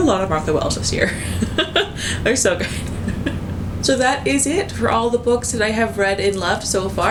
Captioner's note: laughs